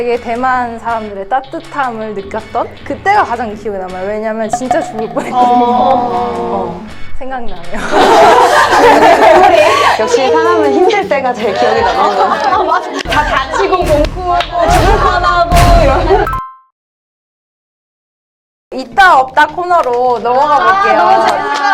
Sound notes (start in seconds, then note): 7.7 laughter; 13.0 bonk